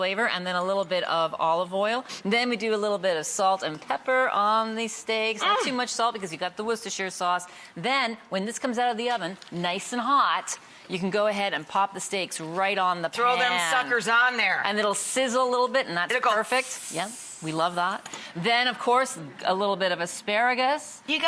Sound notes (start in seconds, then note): 16.2 sizzle sound